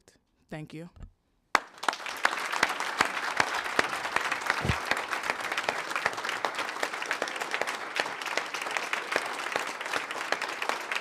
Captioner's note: applause